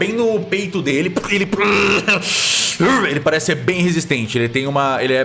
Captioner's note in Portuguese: Grunhidos de dor